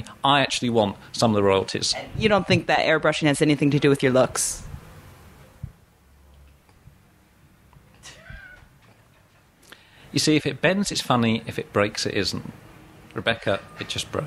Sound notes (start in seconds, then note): 9.3 laughing